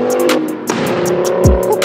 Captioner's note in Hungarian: Bang